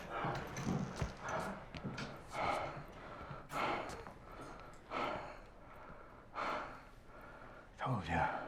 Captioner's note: heavy breathing